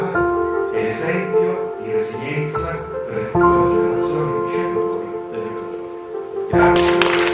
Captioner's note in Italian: Applauso